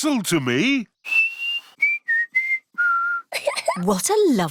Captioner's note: whistles a tune; giggles